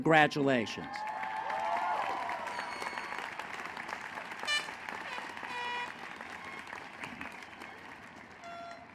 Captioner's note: applause